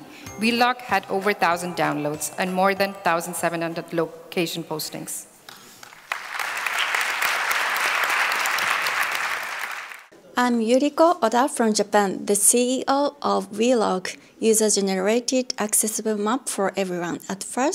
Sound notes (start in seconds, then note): 5.5 applause